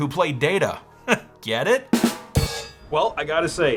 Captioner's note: chuckles